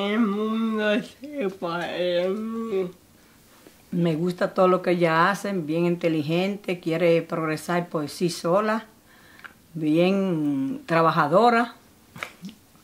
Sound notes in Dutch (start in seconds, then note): 0.4 stelt de vraag in het Spaans; 3.6 Grootmoeder geeft antwoord in het Spaans